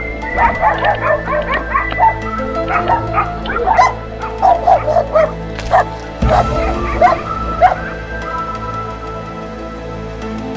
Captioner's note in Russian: лай собак